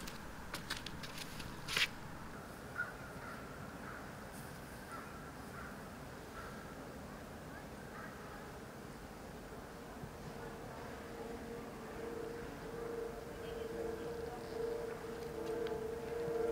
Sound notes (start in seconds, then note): 0.0 shuffling footsteps; 3.1 bird squawking; 11.4 gentle quiet music; 11.4 people chattering